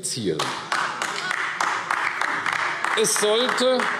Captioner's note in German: Beifall AfD